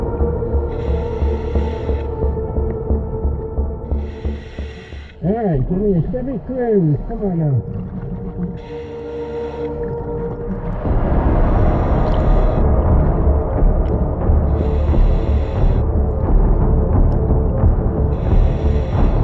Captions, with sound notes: Alright, give me a Chevy Cruze, come on now. (chilling music continuing) (oxygen whooshing continuing)